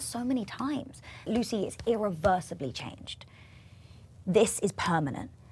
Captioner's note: hand thumping